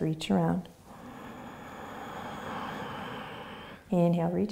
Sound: inhaling

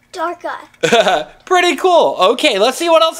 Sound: laughs

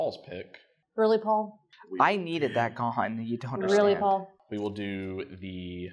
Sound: cranky lifegain player noises

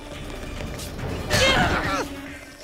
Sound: groaning

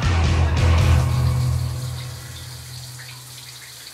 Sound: shower sprays

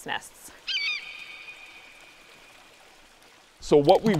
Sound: bird calls

